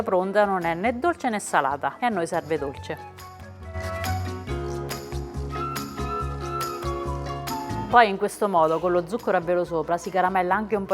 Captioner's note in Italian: Applauso